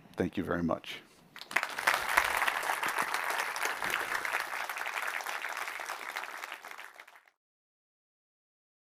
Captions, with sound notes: Thank you very much. [APPLAUSE]